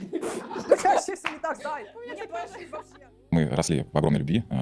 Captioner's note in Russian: смех